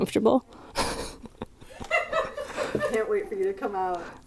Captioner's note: distant laughing